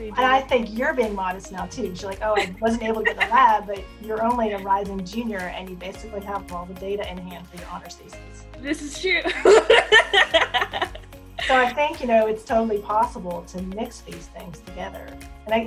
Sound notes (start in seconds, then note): 11.4 laughs